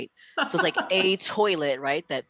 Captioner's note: laughs